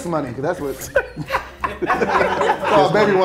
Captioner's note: laughing